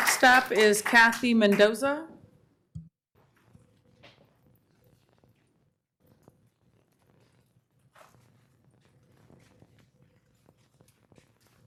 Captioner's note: applause